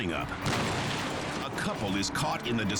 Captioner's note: car crashing